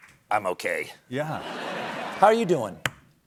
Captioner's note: lower voice